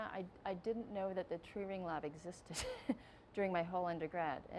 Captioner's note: laughing